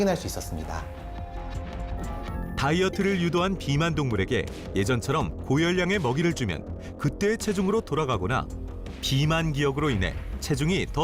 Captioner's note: voiceover